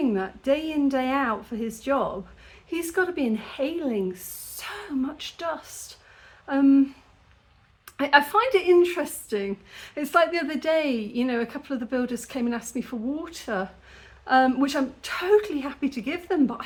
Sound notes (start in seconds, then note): none